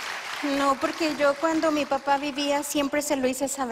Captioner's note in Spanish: aplausos